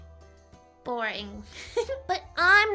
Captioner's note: giggles